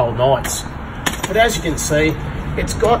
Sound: chair clunking

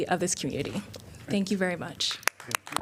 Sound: applause

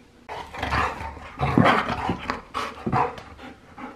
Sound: dog snarling

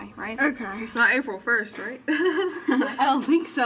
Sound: laughs

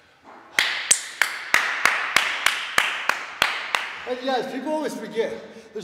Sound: applause

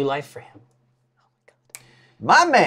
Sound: whispers

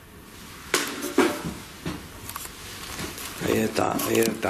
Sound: banging

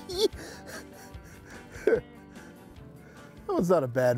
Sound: laughing

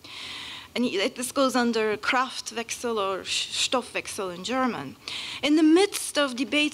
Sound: german

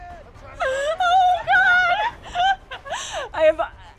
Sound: laughter

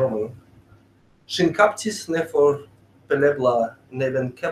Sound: speaking esperanto

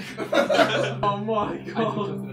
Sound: all laughing

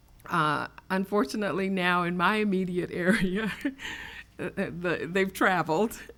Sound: laughs

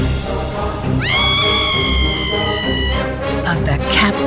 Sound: girl screams

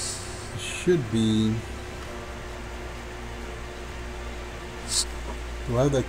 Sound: faint techno music; laughs

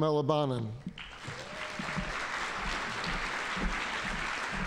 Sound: audience applauding

